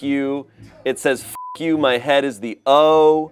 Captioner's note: beep